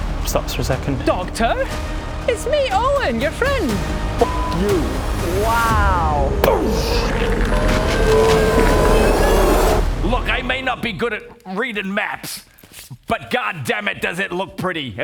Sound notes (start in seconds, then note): 6.3 boosh!